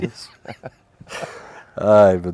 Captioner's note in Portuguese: risos